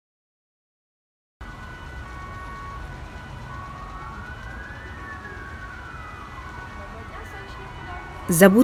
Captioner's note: traffic and sirens sounds